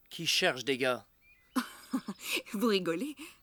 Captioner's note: laughter